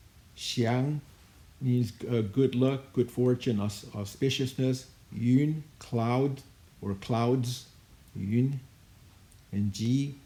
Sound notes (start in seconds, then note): 1.0 speaking in Chinese language; 5.7 speaking in Chinese language; 8.6 speaking in Chinese language